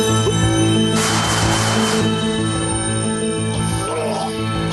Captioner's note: intense instrumental music; jogger gulps; jogger gags